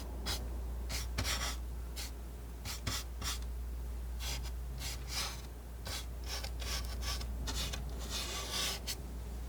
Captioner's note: scratching